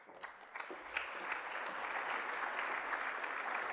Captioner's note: applause